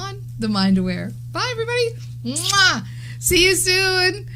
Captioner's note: smack